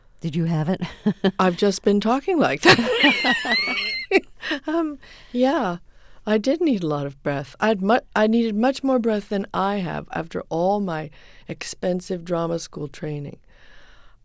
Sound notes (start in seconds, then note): 2.6 soundbite of laughter